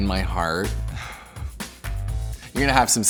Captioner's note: sighs